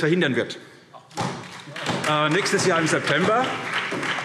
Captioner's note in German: Beifall SPD